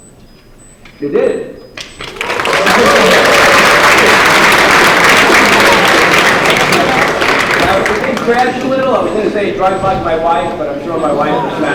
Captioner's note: applause